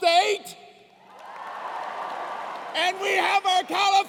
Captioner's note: cheers and applause